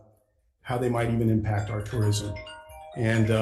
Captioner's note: phone timer rings